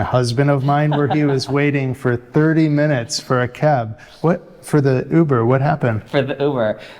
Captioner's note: giggles